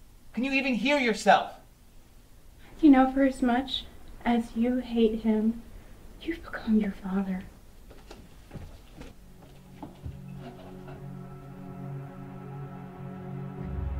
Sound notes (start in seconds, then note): none